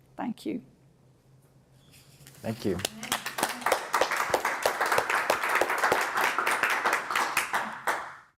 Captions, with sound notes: Thank you. >> Thank you. (applause)